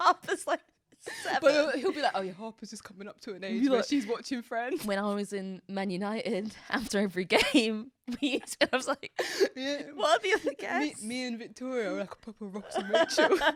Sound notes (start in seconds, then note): 9.1 laughs; 12.7 both laughing